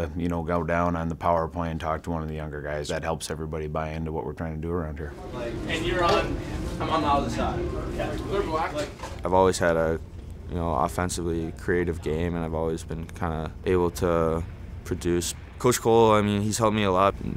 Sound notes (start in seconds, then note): 5.1 locker room chatter